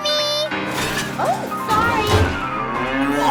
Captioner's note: cow moos